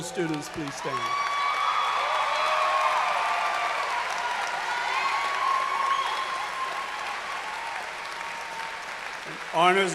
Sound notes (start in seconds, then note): 7.1 cheers and applause